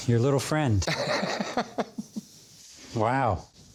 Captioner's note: laughs